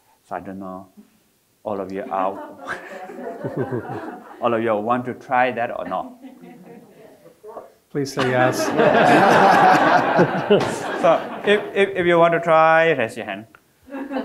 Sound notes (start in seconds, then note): 2.0 all laughing; 8.2 all laughing